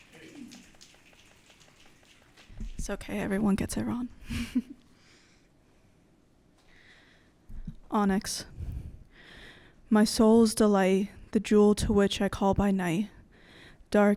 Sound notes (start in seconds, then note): 0.0 audience snapping; 4.2 laughing